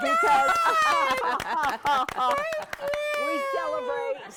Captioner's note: all cheer